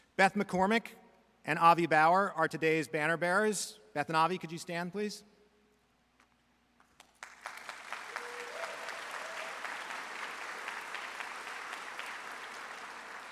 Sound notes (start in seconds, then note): 6.9 audience applauds; 7.5 audience cheers